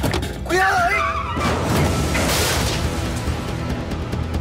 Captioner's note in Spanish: Estruendo